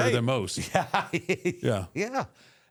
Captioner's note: chuckles